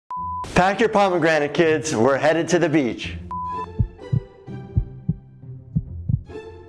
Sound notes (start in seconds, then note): 0.1 beep; 3.3 beep; 3.6 heart thumping